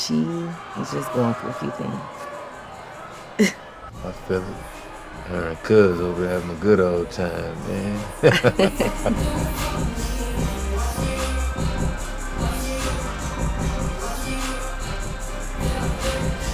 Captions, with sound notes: She is just going through a few things. - I feel it. Her and cuz over there having a good old time, man. (both laughing) (upbeat R&B music)